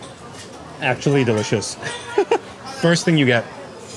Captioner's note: chuckles